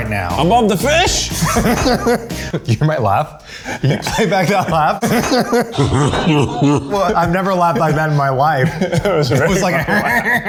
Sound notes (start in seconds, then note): 1.5 laughing; 5.8 evil laugh; 8.6 evil laugh